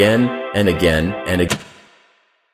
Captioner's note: VHS Eject